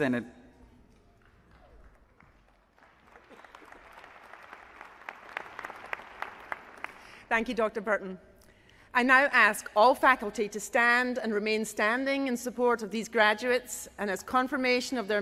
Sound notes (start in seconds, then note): 5.6 applause